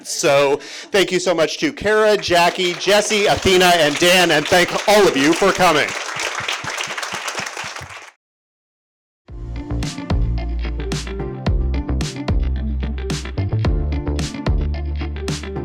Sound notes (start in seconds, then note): 6.2 audience applauding; 9.4 upbeat music